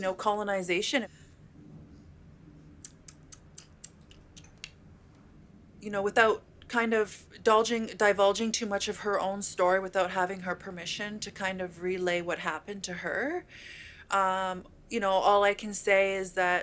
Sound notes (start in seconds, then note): 2.8 mouth clicks